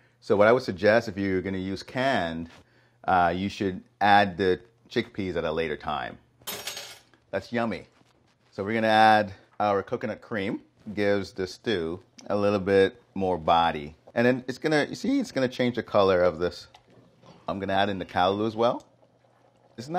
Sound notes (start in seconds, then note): none